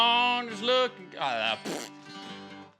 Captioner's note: spits